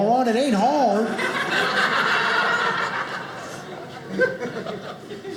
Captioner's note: audience laughing